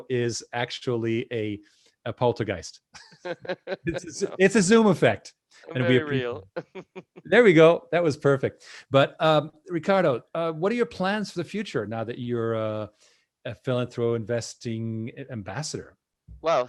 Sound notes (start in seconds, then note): 3.0 laughing; 5.7 laughing